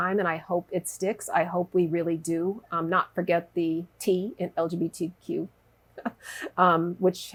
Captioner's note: laughs